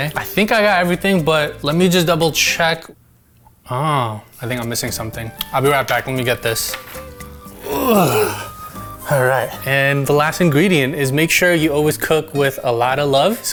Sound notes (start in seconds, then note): 7.6 groaning